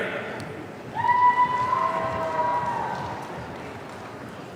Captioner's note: audience cheering